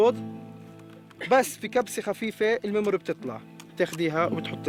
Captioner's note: Arabic spoken audio